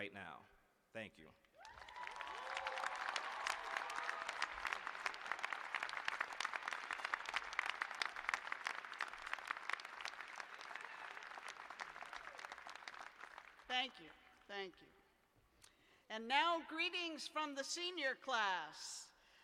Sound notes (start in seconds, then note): 1.5 cheers and applause